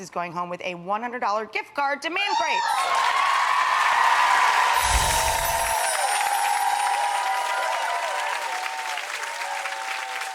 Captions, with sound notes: is going home with a $100 gift card to Man Crates. (audience cheering and applauding) (chiming)